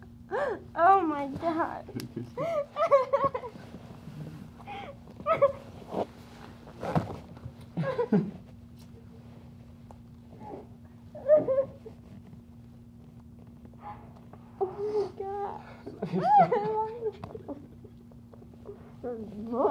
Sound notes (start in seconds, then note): 4.4 lots of crying and laughing